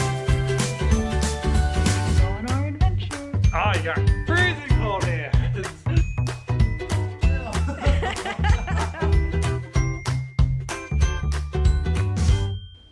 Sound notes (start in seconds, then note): 5.3 laughter; 7.4 laughter